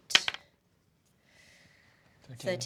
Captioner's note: rolls dice